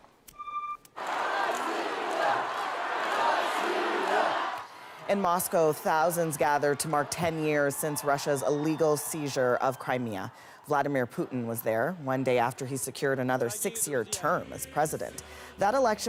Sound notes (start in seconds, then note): 2.4 chanting